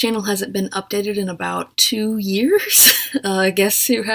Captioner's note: laughs